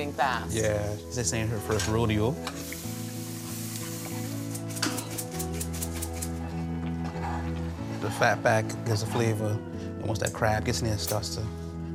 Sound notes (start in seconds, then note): 2.3 food simmering in pan; 3.6 shaking spices